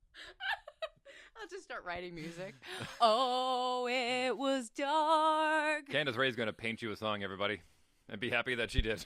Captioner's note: laughs